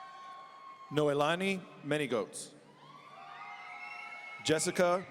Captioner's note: audience cheering; audience cheering